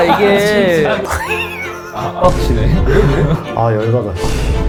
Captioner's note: forced laugh